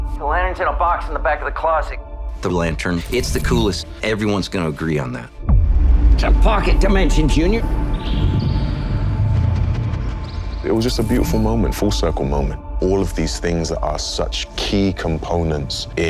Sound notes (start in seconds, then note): 7.9 chirping and fluttering